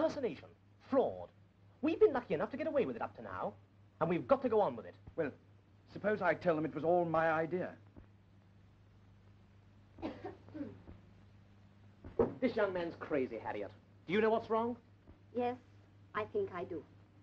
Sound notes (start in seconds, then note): 10.0 throat clearing